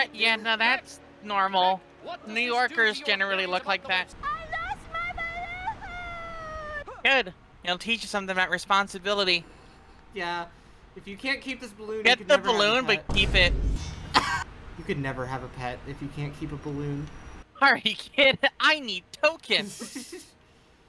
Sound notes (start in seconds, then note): 13.0 Vine boom